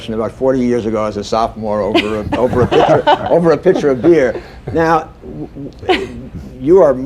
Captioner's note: laughter